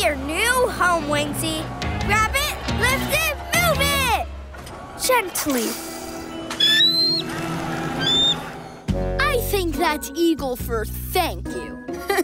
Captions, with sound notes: Time to see your new home Wingsy. Grab it, lift it, move it... gently. [screeching] I think that eagle for thank you.